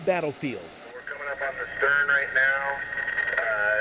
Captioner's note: on Radio